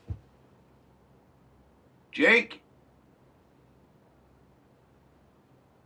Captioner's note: none